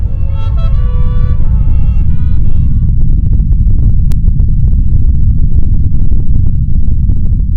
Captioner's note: ground rumbles